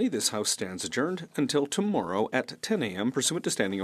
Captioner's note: speaking French